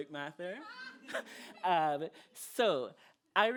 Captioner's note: laughter